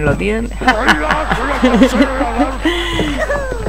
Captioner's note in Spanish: risas